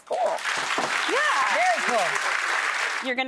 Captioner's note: crowd clapping